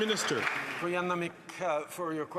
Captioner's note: applause